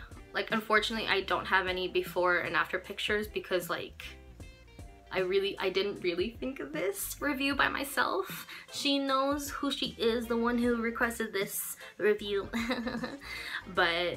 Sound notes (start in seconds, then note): 12.5 chuckles